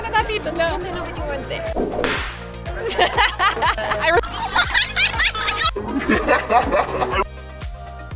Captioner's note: another Evil Laughter